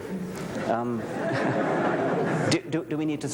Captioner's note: laughter